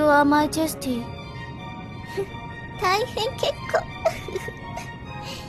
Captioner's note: laughs